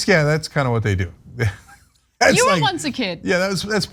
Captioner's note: laugh